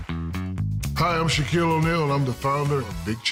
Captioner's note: applause